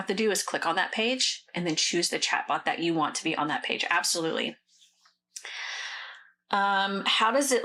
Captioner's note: sighs and gasps